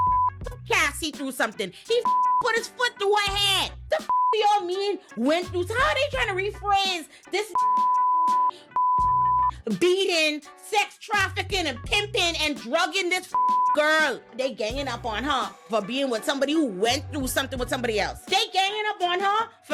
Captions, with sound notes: (beep) through something. He (beep) put his foot through her hand. The (beep) he all mean went through. So how are they trying to rephrase this (beep) beating, sex trafficking and pimping and drugging this (beep) girl? They're ganging up on her for being with somebody who went through something with somebody else. They're ganging up on her